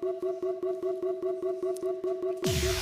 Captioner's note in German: Buzzer